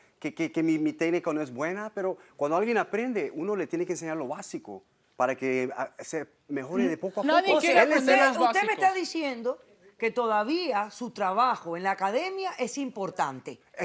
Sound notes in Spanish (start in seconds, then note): 5.3 Hablan al unísono